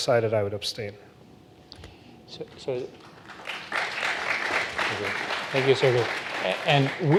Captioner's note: claping